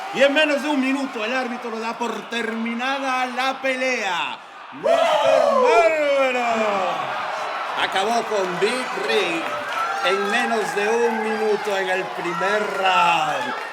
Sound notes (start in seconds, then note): 0.7 cheering; 1.0 clapping; 3.2 cheering; 3.8 clapping; 6.1 cheering; 8.8 cheering; 12.4 cheering; 13.0 clapping